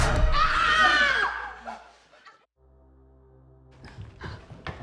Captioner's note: all screaming